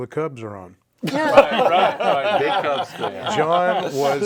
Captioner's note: all laugh